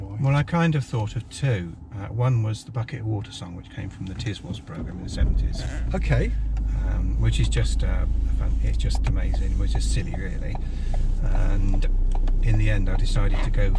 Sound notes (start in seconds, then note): 6.8 engine starts